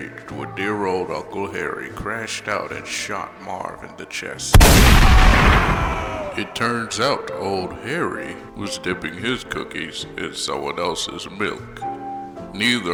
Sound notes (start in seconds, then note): 4.7 Marv lets out a scream of terror after being shot